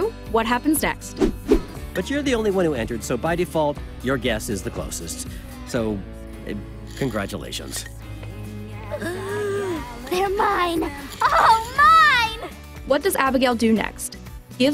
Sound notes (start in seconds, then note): 8.9 gasps